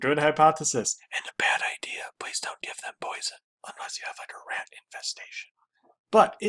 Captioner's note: whispering